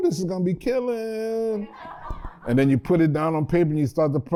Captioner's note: laughter